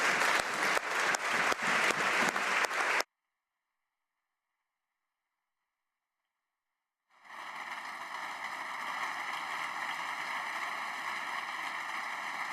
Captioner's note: applause